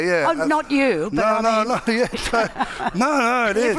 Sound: chuckles

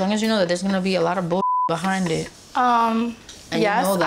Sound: beep

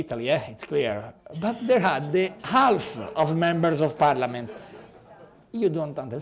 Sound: laughter

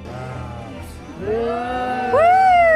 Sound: crowd

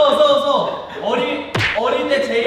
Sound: punch!

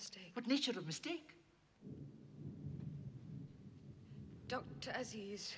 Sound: thunder rumbles

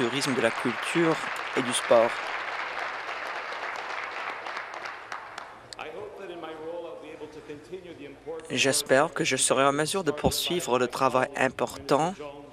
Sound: applause

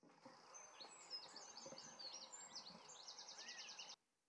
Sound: birds chirping

